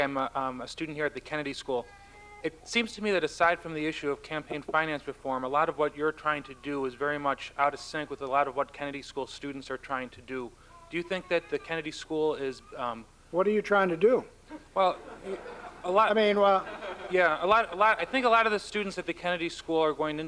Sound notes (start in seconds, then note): 16.3 laughter